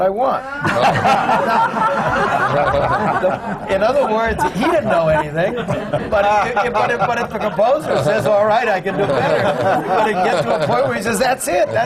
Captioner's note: laughter